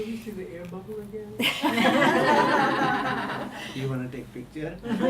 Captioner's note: all laughing